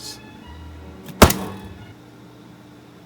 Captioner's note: slam